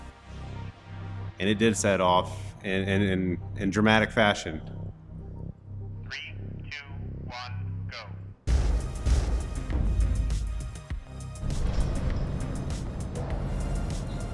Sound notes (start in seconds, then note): 8.3 explosion rumbles